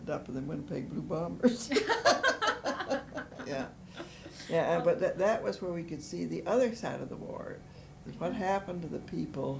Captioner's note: laughter